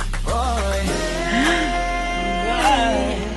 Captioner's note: gasp